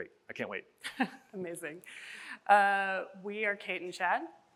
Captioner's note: chuckles